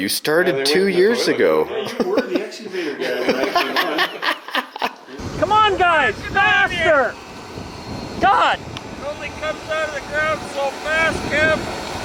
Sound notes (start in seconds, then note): 3.4 laughing